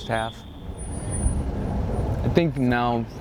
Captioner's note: whistle